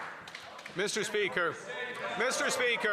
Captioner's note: some Applause